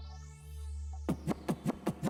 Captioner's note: record scratching; mellow electronic music